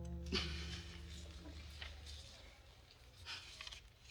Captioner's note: light acoustic strings music; Burt laughing